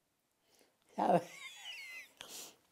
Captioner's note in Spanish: Ríe